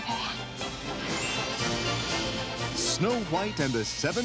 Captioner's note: narrator reading